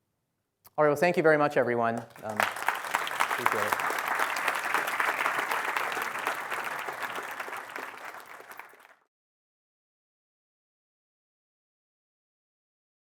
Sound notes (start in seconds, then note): 1.8 applause